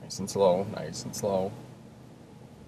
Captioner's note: none